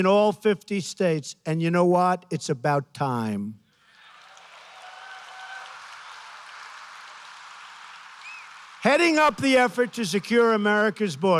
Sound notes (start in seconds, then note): 3.8 applause